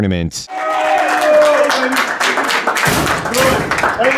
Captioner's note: applauding